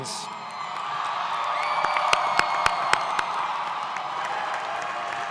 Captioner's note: audience cheers